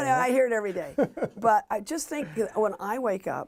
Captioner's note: laughter